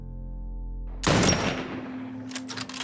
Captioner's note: gun bangs; gun cocking